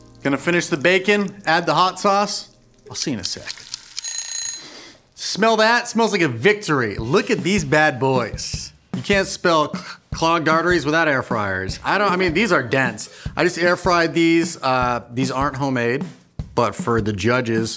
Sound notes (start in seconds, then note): 3.6 timer Ticking; 3.9 timer Ringing